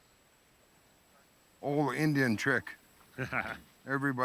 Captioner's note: laughs